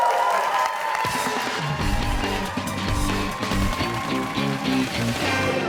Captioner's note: applause